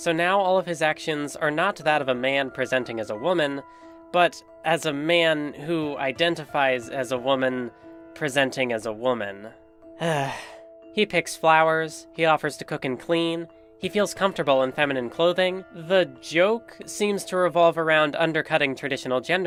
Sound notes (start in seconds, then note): 10.0 sigh